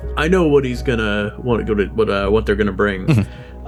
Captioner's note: stutters